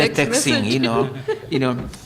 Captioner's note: laughter